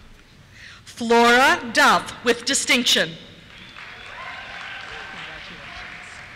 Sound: cheers

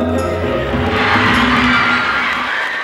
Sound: screaming and clapping

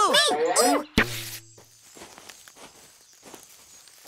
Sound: thud

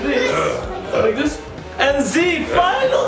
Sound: mummy growling

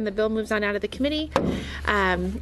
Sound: gavel bang

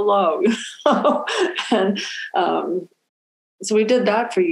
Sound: laughing

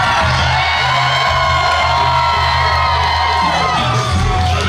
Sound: crowd cheering

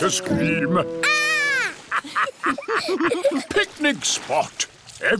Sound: laughter

